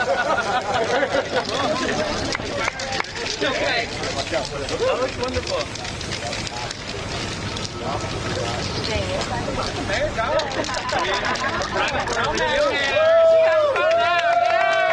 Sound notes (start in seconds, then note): 3.1 applause